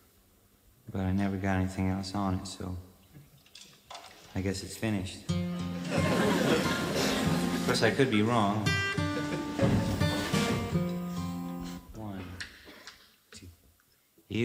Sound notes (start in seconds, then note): 5.6 audience laughing; 9.2 bright guitar music